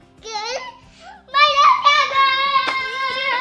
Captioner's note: yelling